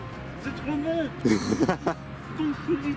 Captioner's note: laughs